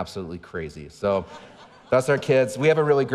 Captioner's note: audience laughing